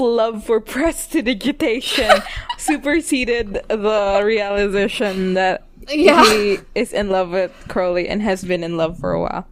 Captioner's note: laughs